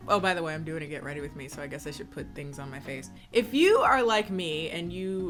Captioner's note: none